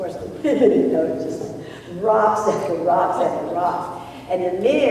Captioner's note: laughs